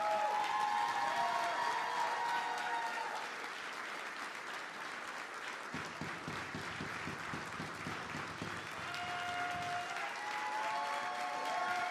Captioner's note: applause